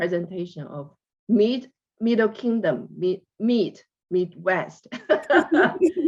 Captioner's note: laughs